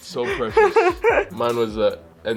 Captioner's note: Elle laughs